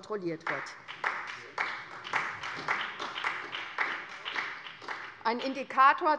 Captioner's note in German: Beifall bei der SPD